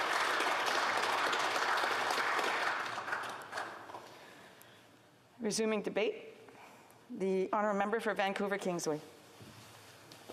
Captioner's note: applause